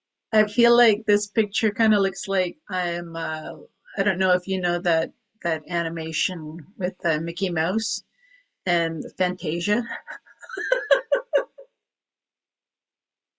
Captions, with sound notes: I feel like this picture kind of looks like I'm, I don't know if you know that animation with Mickey Mouse and Fantasia (laughs)